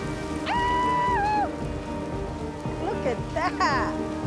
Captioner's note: woman calls out